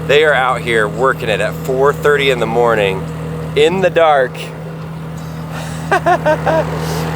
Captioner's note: chuckles